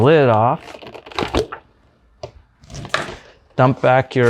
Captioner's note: lid popping